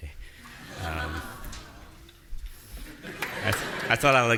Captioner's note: audience laughing